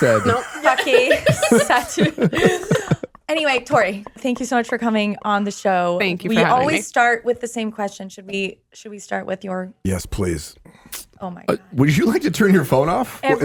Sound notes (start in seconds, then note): 1.7 everyone laughs